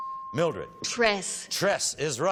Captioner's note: chime